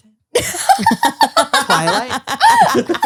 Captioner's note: laughs